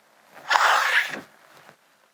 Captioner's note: snorting